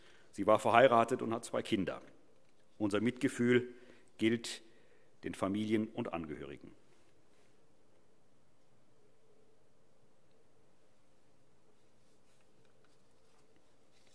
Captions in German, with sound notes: Sie war verheiratet und hat zwei Kinder. - Unser Mitgefühl gilt den Familien und Angehörigen. [Schweigeminute]